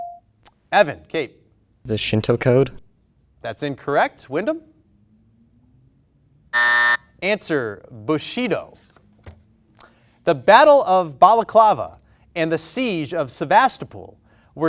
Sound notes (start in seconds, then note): 6.5 beep